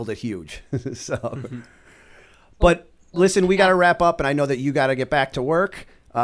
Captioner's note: chuckle